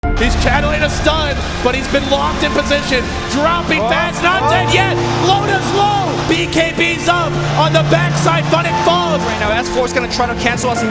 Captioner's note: casters commentating